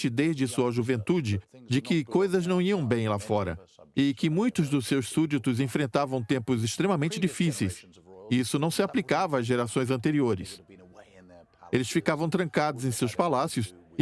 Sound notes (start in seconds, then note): none